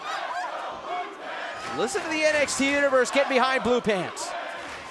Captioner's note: fans chanting